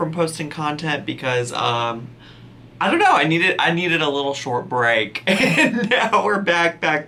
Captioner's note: laughs